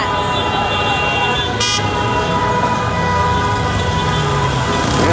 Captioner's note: horns honking